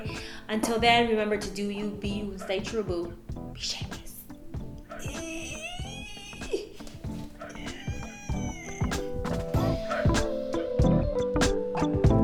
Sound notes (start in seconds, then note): 5.0 makes straining noises